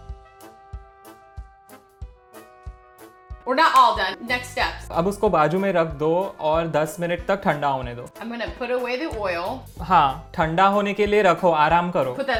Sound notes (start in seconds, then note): 0.2 jazzy music; 5.3 speaking in Hindi; 10.0 speaking in Hindi